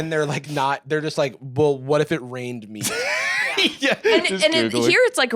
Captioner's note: laughs